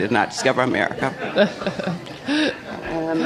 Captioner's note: laughter